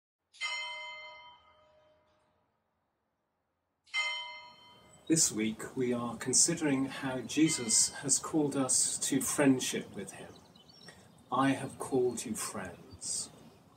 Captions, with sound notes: (bells) - This week was are considering how Jesus has called us to friendship with him. I have called you friends.